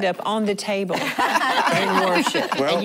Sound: laughing

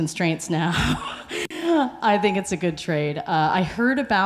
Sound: laughs

